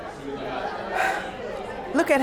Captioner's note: exhales